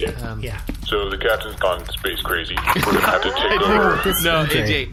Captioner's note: charges blaster